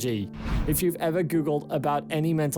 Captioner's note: screen swishes